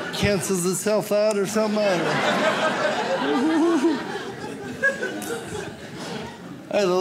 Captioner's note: audience laughs